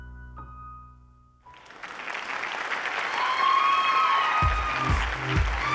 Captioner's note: cheering and applause